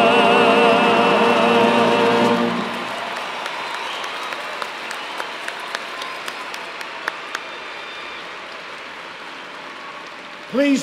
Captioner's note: cheers and applause